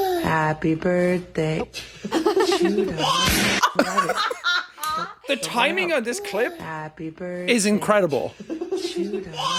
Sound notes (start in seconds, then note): 2.0 chuckles; 3.1 baby whines; 3.1 balloon pops; 4.5 Jacksepticeye and Courtney laughing